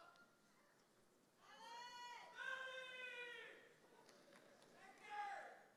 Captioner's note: audience cheers and shouts